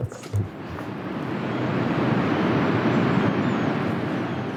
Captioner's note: waves lapping